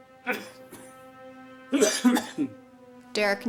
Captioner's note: Thomas coughing